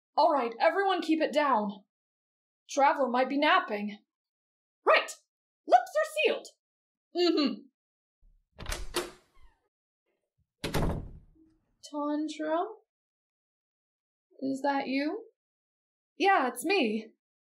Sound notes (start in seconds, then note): 8.5 door creak